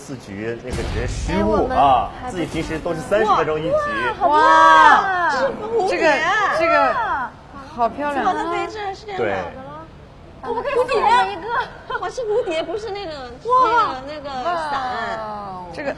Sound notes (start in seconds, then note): 4.4 gasping!